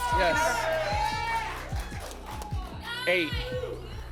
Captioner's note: applause and cheering